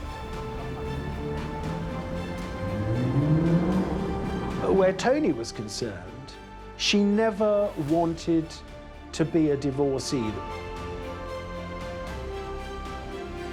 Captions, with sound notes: (upbeat music) (car engine revving) - Where Tony was concerned she never wanted to be a divorcee. (upbeat music)